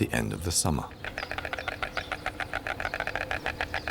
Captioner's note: stork nattering